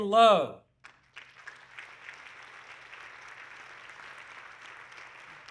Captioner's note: audience clapping